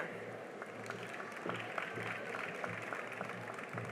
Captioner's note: cheering and applause